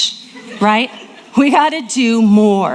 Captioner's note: audience laughing